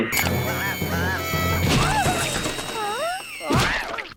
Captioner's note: drill buzzing